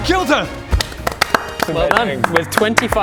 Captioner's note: heroic applause